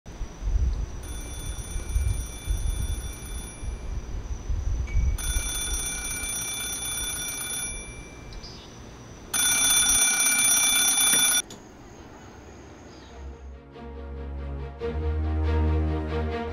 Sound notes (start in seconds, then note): 1.0 telephone ringing; 9.3 telephone ringing growing louder; 13.1 instrumental music playing